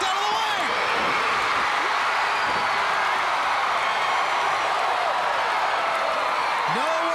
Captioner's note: crowd cheering